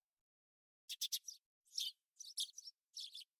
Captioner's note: song of a little bird